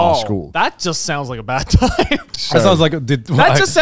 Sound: laughing

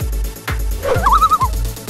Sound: loon call

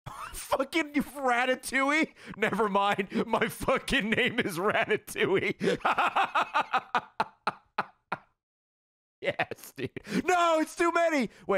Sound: laughs

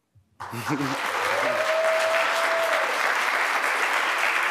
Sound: applause, cheering

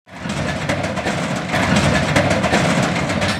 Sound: metal clanking

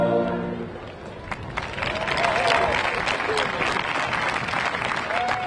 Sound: audience clapping

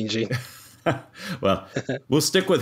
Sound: laugh

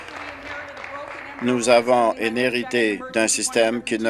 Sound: applause

